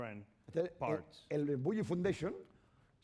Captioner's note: speaking spanish